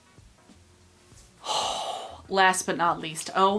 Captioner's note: sighs